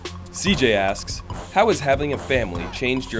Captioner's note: voiceover